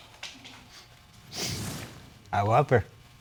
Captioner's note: sniffs